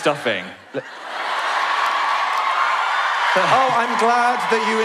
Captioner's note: audience laugh